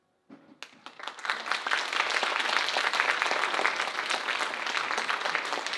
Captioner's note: audience applauding